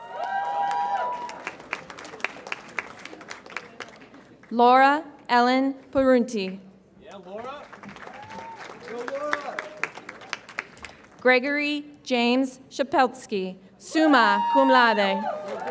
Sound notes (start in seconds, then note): 0.0 audience applauds and cheers; 9.9 audience applauds; 15.0 audience applauds and cheers